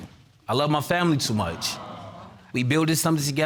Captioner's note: audience exclaims